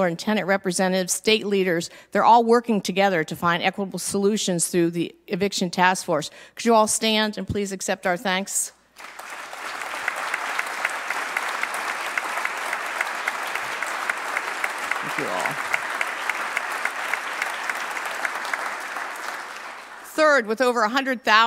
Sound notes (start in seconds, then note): 8.9 applause